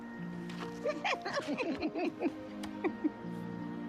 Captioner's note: laughing